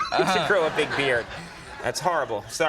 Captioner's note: audience laughing